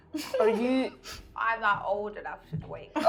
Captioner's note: laughing